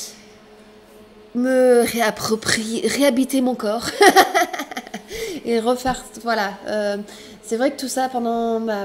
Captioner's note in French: rires